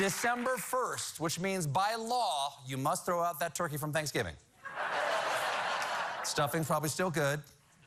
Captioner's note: cheers and applause